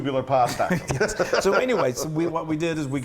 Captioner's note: laugh